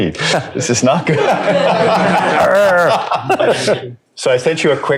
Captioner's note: laughter